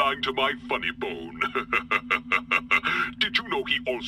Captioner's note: laughter